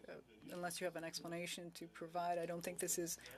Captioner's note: speaking French